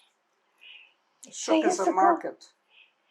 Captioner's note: hebrew